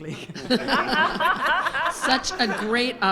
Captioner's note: audience laughs